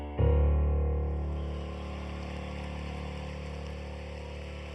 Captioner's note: applause